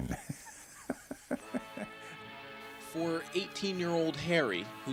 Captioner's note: laughs